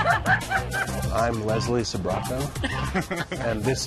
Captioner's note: laughter; laughter